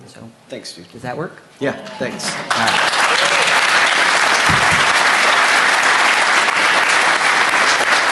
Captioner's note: applause